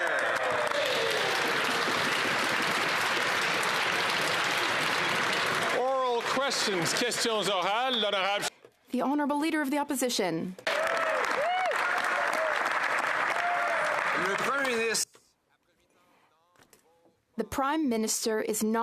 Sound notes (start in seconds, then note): 8.2 applause; 11.6 speaking French